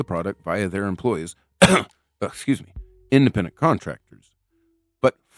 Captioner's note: cough